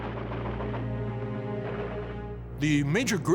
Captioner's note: gun fires